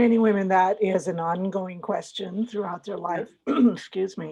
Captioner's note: cough